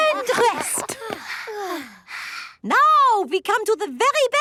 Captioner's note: panting